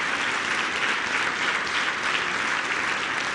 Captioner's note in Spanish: aplausos